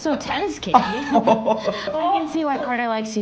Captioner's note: laughter